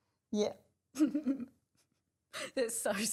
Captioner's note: laughs